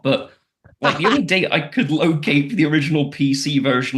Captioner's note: laughs